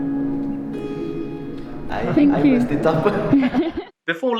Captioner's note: laughter